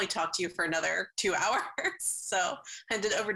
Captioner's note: chuckles